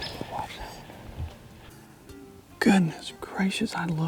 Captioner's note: whispering